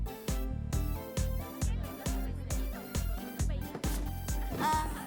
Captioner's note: dance beat; happy chatter